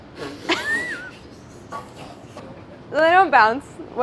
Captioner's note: laughing